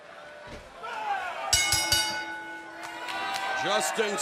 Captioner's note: bell ringing